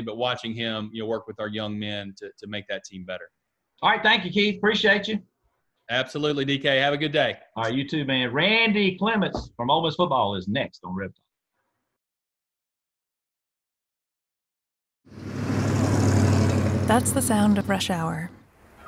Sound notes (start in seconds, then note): 15.1 engine rumbles